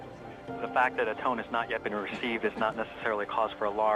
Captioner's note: murmurs